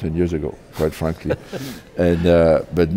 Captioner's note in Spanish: se ríe